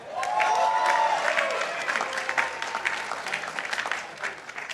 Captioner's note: participants applauding